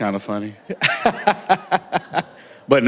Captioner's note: laughter